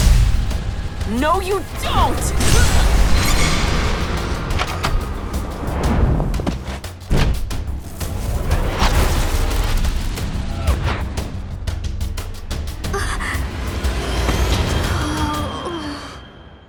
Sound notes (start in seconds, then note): 2.4 Jae grunts; 4.4 door opens; 7.1 door closes; 11.0 suspense music; 14.9 Terra groans